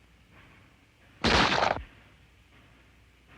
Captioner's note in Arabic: طلق ناري